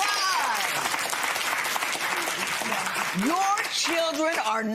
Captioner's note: applause